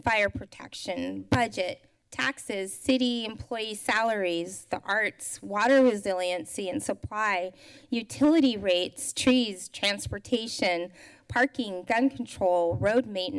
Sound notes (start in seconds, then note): none